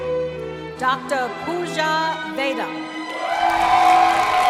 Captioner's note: cheering